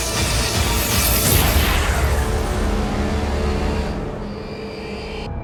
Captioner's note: power whirring